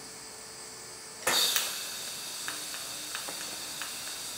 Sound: hiss, high-pitched whirr, isolated soft click

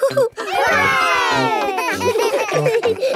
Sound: chuckles; laughing

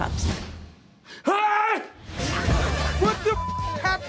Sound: yells

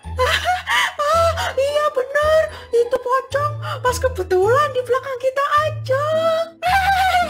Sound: nervous laugh

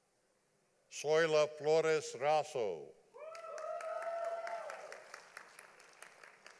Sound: audience applauding

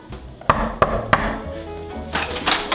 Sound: knock on door

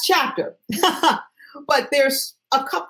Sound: chuckles

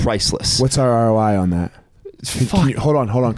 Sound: chuckling

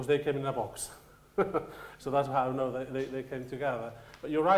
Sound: chuckles

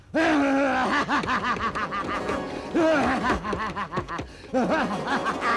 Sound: keyboard clacking; laughs

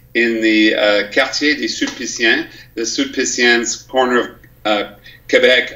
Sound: speaks French

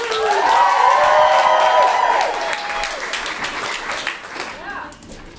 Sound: cheers and applause

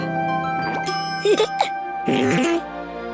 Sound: chuckles

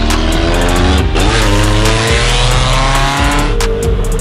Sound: engine revving

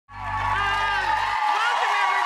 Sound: cheering

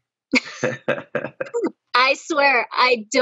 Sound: all laughing

